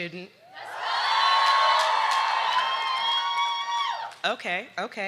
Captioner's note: audience cheering